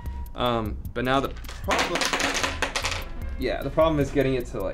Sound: screws clattering

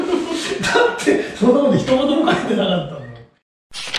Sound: laughs

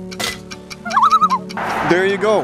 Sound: loon call

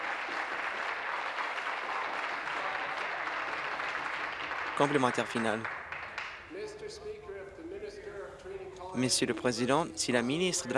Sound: applause

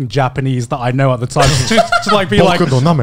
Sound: laughing; speaking Japanese

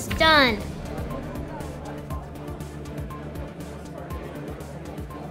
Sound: audience murmuring

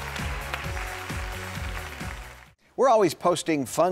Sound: audience applauding

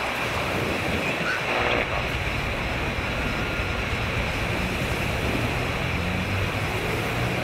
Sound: radio static, with the sounds of the city quietly behind

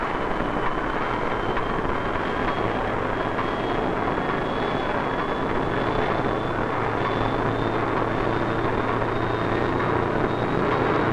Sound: sounds of machinery cranking

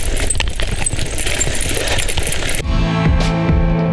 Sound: cycle Riding Sound

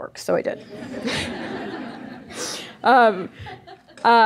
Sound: audience laughing

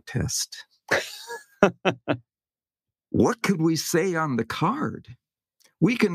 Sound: laugh

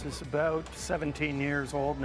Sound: voiceover

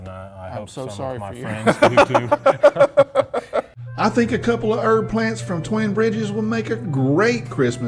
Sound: laughing

